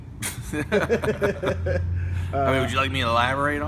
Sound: laughter

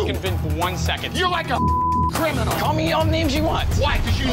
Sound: beeping

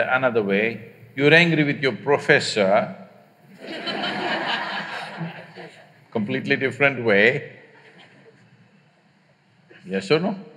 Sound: laughter

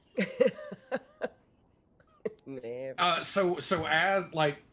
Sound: laughs

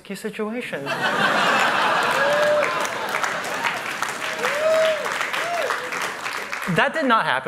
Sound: laughter

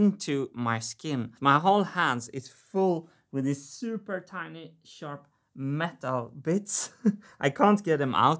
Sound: chuckles

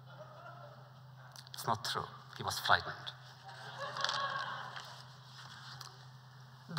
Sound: laughter

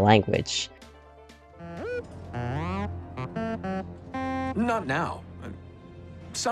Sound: beeps

